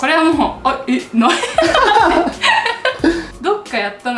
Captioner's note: laughs